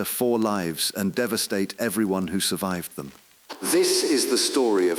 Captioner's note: exhale